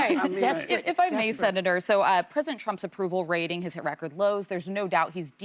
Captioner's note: laughter